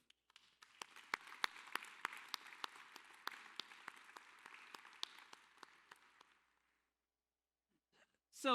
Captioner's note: applause